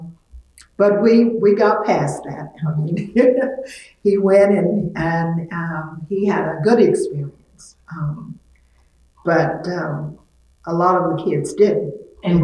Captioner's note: laughs